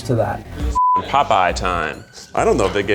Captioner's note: beeps